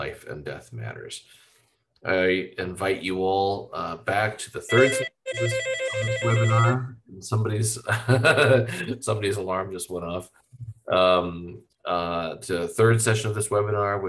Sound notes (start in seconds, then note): 4.7 phone ringing; 7.5 laughing